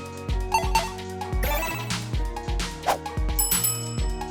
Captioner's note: digital ping